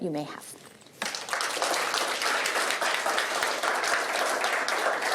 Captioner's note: applause